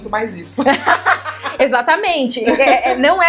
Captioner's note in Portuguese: risos